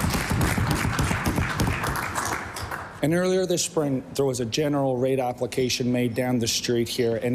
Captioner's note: applause